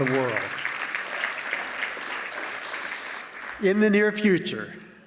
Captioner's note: applause